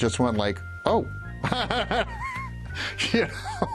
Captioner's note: laughs